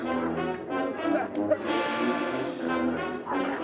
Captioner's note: groans